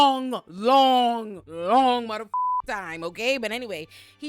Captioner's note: beep